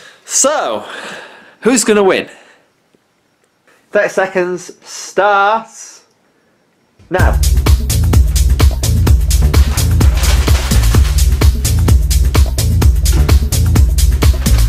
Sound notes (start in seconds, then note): 9.4 crumpling up sound; 13.0 bin noise